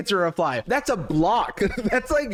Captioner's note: chuckles